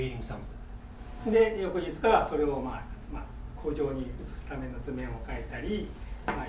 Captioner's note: speaking in foreign language